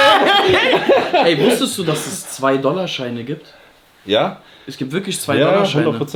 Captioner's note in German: gelächter; schnauben